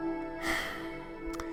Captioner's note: sigh